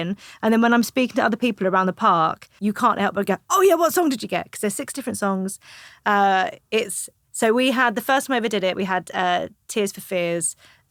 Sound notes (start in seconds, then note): none